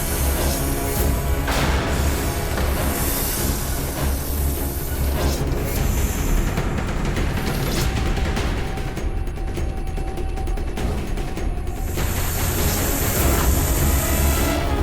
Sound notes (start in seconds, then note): 11.8 hissing